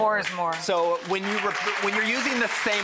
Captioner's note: audience applauding